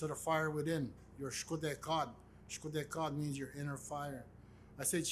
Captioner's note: speaks in Indigenous language